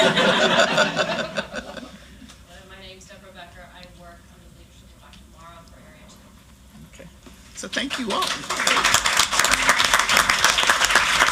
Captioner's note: laughter